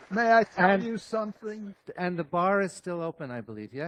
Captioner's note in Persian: تشویق حضار